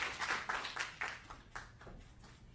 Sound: applause

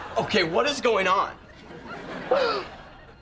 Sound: gasping

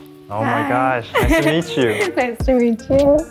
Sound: laughs

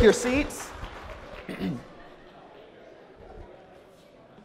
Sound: crowd murmurs

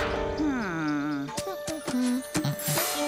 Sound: humming

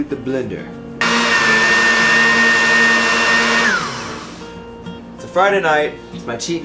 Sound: blending noises

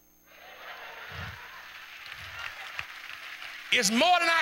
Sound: clapping

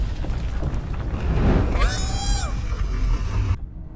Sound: screams

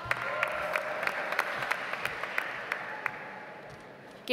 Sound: audience applauds

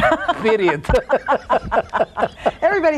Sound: laugh

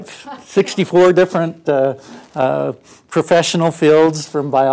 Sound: laugh

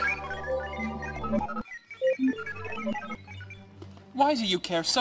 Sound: confused chirping

